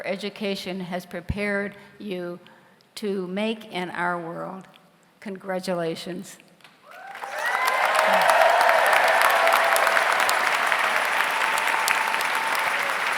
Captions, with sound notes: your education has prepared you to make in our world, congratulations. (audience cheers) (audience applauds)